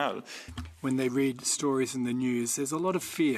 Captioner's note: speaking French